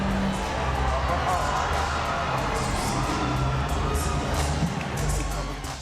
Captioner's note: people chattering indistinctly